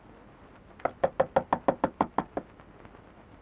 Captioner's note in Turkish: Kapı çalınma sesi